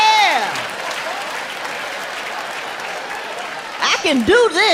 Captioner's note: audience laughing